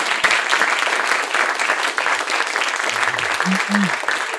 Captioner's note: audience applauds